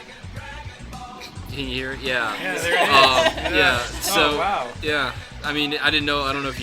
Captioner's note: laughs